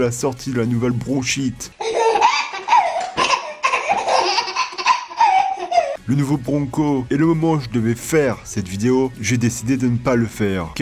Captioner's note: laughing baby meme